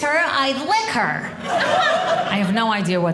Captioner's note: audience laughing